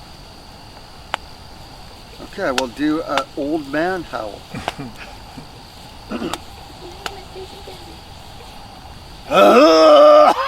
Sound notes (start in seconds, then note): 4.3 chuckling